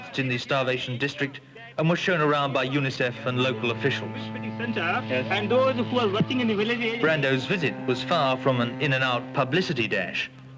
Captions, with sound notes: in the starvation district and was shown around by UNICEF and local officials. (chatter) Brando's visit was far from an in-and -out publicity dash.